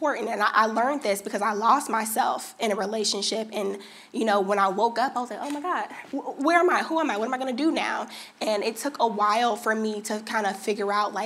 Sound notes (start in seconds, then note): none